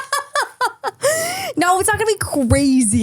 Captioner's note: person laughing